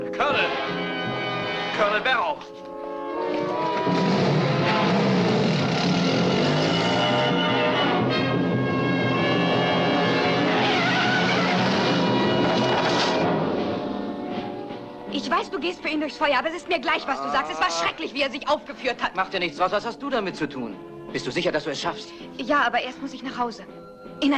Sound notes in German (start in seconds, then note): 5.2 Motor startet; 10.2 Reifen quietschen